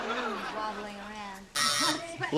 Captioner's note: laughter